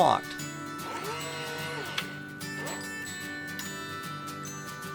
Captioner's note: motor buzzing